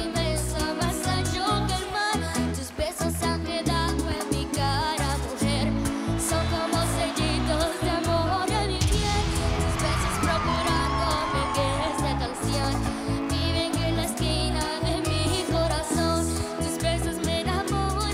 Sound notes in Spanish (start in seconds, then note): 10.0 gritos y exclamaciones